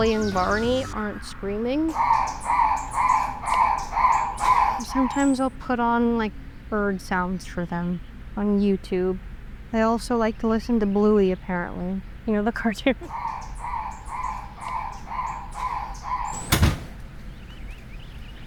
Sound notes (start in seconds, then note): 4.9 bird squawks; 12.8 laughs